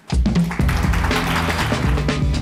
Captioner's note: applause